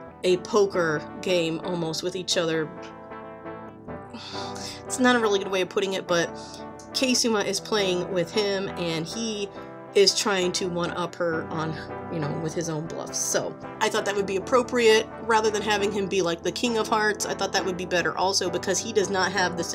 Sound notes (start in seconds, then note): 4.0 pauses and sighs at self